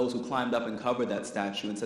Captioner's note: none